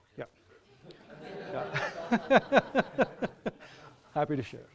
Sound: audience laughs

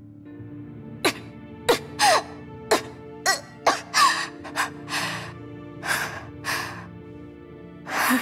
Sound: coughs

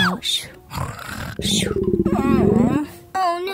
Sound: Bluey's tummy rumbling

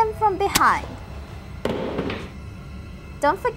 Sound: box drops

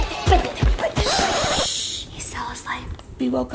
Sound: shushes

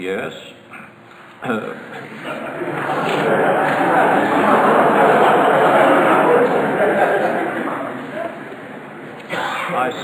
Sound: audience laughter

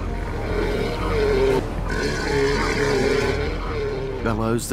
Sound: roars

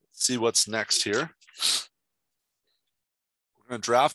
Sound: sniffle

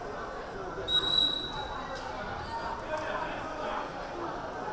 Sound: whistle blaring

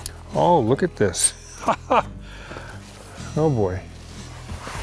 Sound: laughs

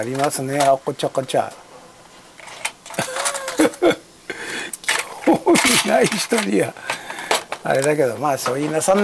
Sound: laughs

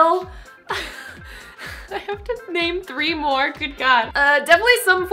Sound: laughs

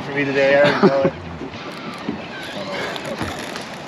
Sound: laughing; reel spinning

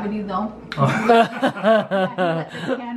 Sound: laughter

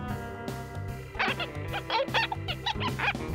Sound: squeaking

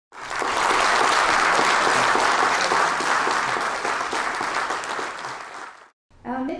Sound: applaus

